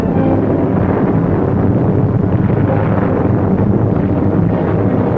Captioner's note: inspiring orchestral music; plane engines humming; bombs exploding